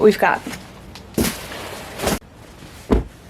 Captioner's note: soft thwumps; thwump